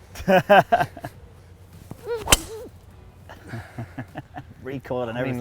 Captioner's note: laughing